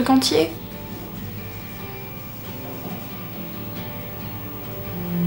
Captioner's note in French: Bruits de vibration